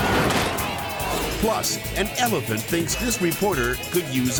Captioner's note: truck clattering; zookeeper chattering